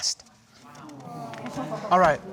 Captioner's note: audience exclaiming